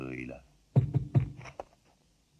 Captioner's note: knocking on door